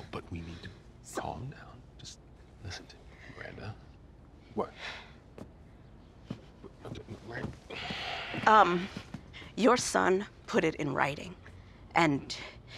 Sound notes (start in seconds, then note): 7.6 sighs